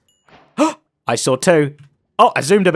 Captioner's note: gasps